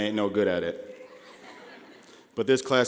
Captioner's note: laughing